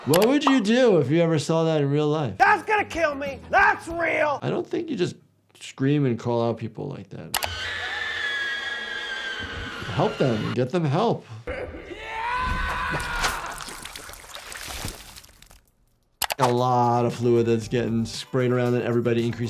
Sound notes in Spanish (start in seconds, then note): 7.5 miembros de la audiencia gritando; 11.4 persona gritando